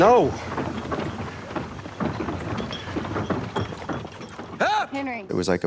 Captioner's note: wagon rattling